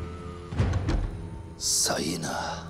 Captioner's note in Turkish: Kapı kapanma sesi